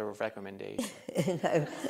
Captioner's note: laughter